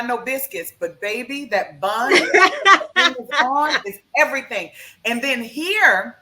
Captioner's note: laughs